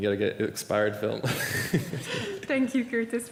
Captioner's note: laughter